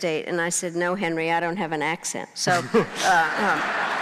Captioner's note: crowd laughing